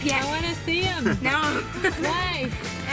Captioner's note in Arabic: يضحك